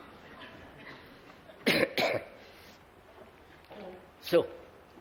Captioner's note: laughter